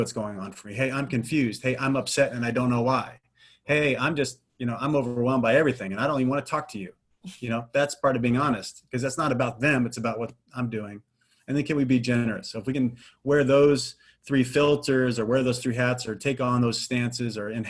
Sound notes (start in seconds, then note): none